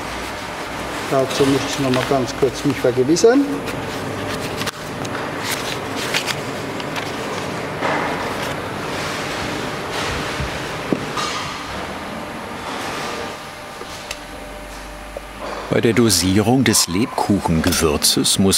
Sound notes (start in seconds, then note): 8.1 dull machine roar